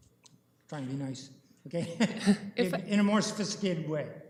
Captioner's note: chuckling